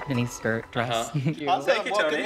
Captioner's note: chuckles